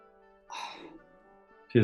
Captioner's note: sighs